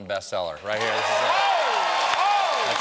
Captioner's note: cheers and applause